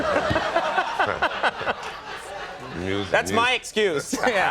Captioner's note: chuckles; thud